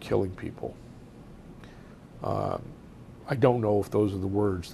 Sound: pauses for 3 seconds

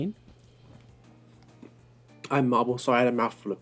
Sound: awkward silence

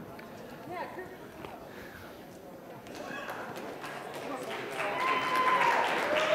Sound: applause

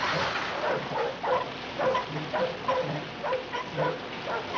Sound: dog barking

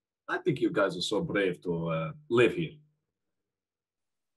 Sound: Russian accent that slips

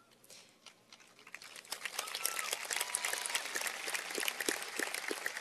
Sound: cheers and applause

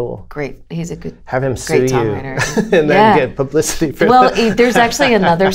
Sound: laughter

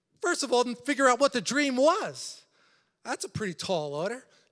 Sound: none

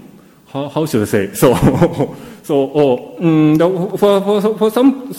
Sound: laughs

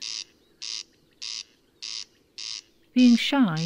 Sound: corncrake calling

